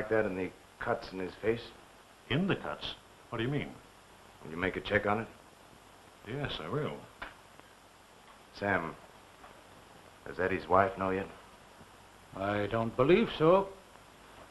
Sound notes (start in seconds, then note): none